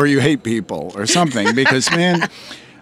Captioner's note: laughs